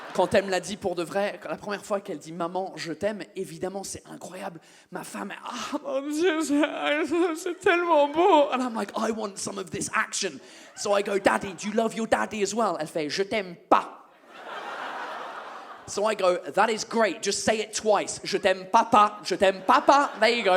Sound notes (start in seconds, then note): 5.4 sobbing sounds